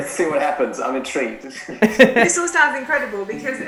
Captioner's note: laughs